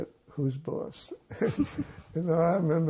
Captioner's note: laughing